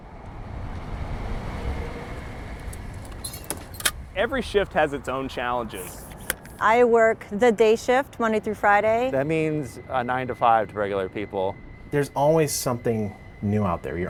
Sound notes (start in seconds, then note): 0.2 car engine humming; 2.6 equipment squeaking